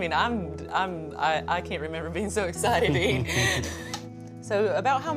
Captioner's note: laughs